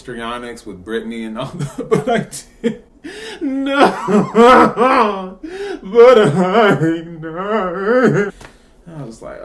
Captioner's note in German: Laute weinende Geräusche